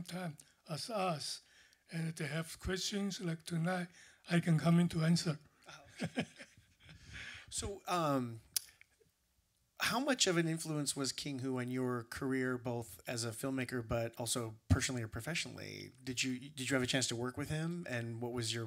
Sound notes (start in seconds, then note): 5.7 laughter